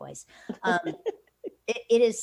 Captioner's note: laughs